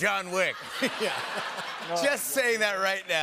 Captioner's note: laughter